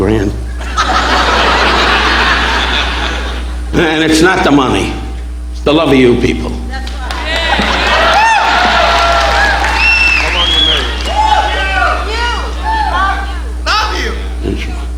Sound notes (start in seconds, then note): 0.5 audience laughing; 6.8 audience applauding